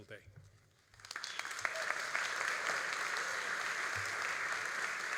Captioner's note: all applauding